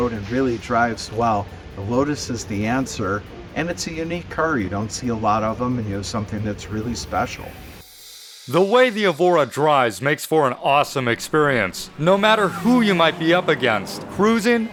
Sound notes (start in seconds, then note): 10.6 engine sounds